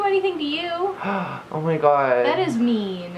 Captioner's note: gasps